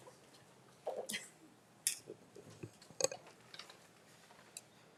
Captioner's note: laughing